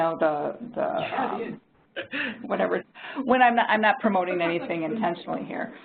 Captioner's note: laughing